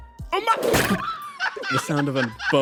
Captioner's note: impact Noises